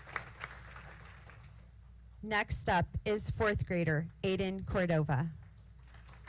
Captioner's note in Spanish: aplausos; aplausos